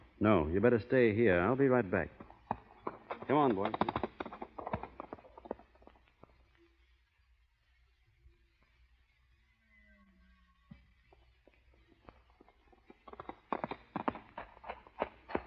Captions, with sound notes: No, you better stay here. I'll be right back. Come on, boys. [footsteps]